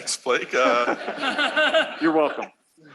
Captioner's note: laughter